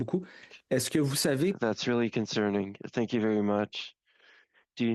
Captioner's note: speaking in French